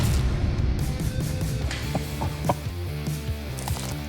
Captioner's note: laughing